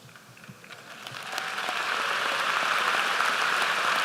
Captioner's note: applause